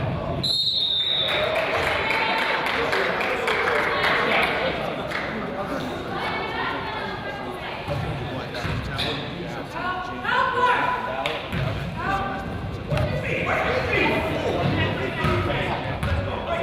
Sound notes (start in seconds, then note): 0.4 whistle blows; 0.9 crowd applauds; 10.5 coach yells